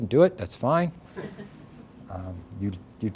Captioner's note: audience chuckles